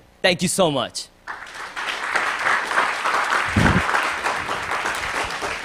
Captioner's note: applause